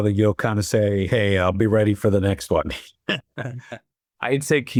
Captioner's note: laughs